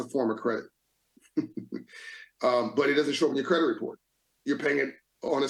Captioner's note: laughs